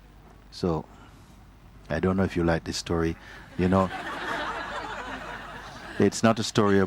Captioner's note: laughter